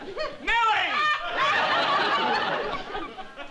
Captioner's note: screams